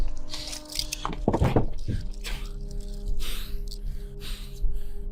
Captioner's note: heavy breathing